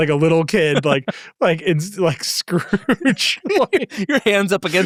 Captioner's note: laughs